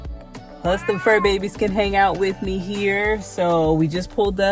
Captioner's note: meow